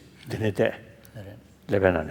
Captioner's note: foreign language